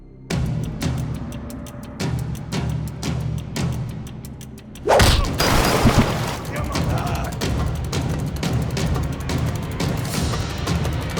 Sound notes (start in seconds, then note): 0.3 suspenseful music; 4.8 kick thuds; 4.9 gun fires; 7.5 tense suspenseful music